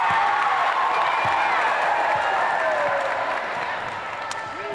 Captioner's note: cheering